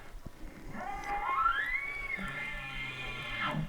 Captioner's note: caller bark bugling